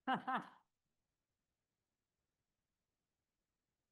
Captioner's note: laughing